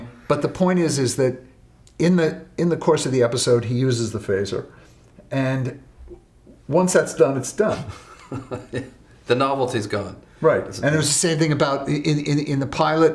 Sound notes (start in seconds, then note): 7.7 chuckles